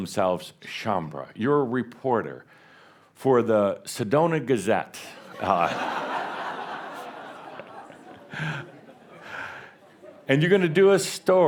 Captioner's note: laughter